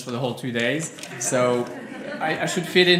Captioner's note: laughter from crowd